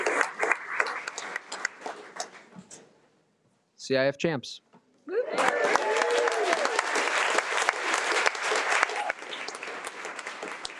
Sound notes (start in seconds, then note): 5.1 audience cheering